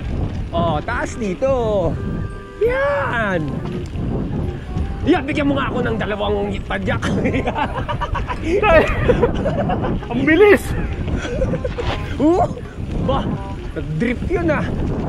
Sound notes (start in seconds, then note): 7.0 laughing